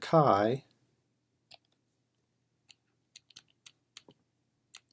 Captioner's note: typing